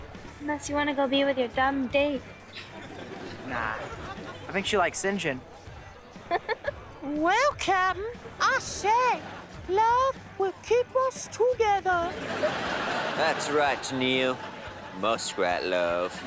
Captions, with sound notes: Unless you wanna go be with your dumb date. Nah, I think she like Sinjin. [laughing] Well captain, I say, love will keep us together. That's right, Neil. Muskrat love.